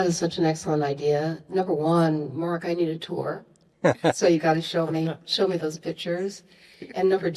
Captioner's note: laughs